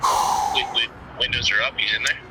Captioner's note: breathes heavily